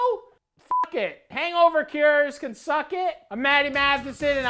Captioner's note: beep